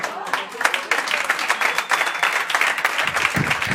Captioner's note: applause